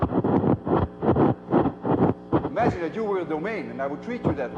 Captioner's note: loud cracking noise